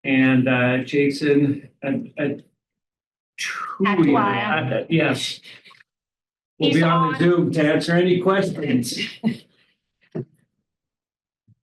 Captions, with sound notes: and Jason truly- (overlapping chatter) yes, will be on Zoom to answer any questions.